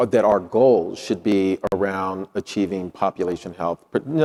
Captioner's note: none